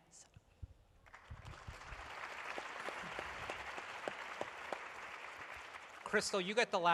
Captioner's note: applause